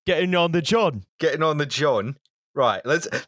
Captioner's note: cockney voice